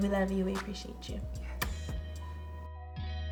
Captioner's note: whispers; slow techno music